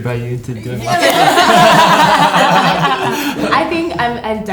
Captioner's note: laughter